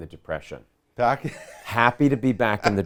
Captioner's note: laughing